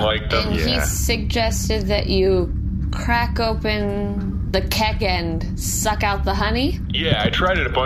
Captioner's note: hesitant